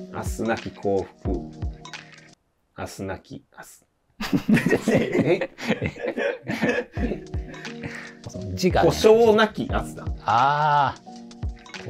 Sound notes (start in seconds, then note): 4.3 laughing